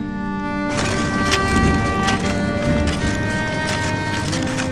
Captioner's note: carts rattling